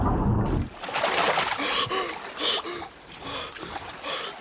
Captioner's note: gasps